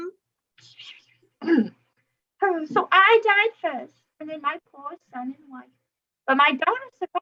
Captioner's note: sighs